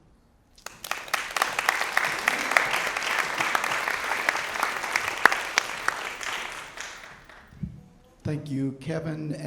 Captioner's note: applause